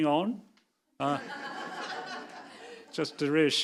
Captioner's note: audience laughing